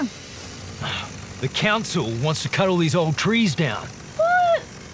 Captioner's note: scoffs